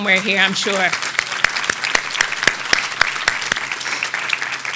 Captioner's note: audience applauding